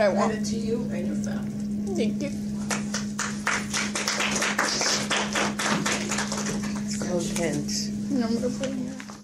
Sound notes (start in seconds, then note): 2.6 applause